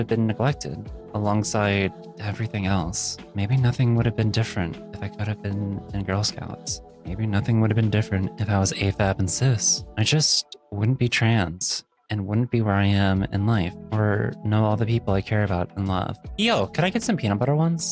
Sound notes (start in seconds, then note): none